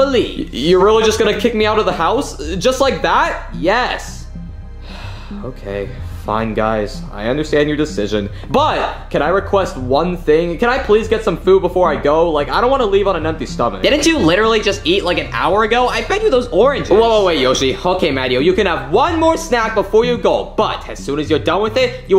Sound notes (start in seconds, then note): 4.8 Mario sighs